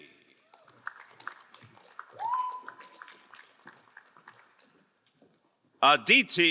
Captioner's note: crowd cheering and applauding